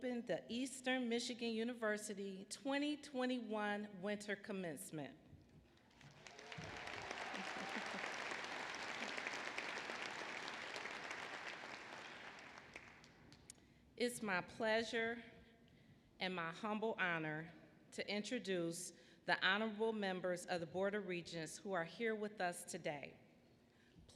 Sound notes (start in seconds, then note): 5.8 applause